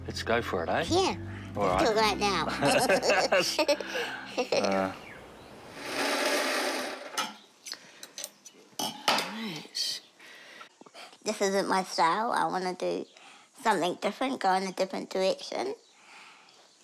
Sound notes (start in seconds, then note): 2.4 both laugh; 5.8 sewing machine whirrs